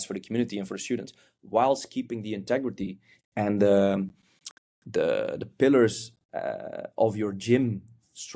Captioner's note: lips smack